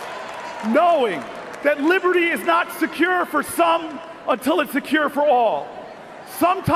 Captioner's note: cheers and Applause